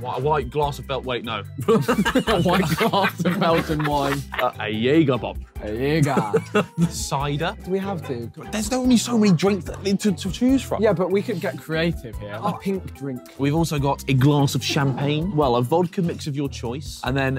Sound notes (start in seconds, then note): 1.6 laughing